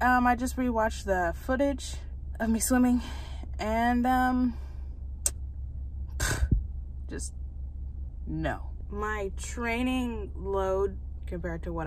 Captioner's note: scoff